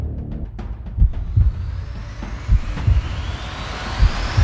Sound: heartbeats thudding aloud

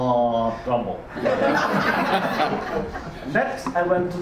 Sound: audience laughs

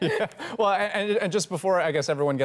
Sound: laughter

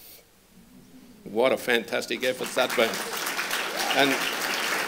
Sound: applause

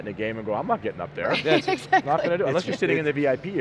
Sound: laughing

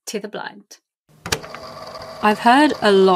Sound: tape recorder clicks on

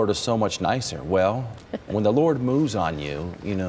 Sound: chuckling

